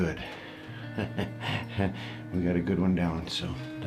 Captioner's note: chuckles